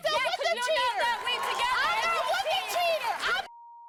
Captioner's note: both yelling